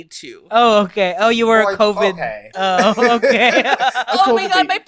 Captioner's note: laughs